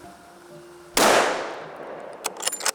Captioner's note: gun shot fires; gun racking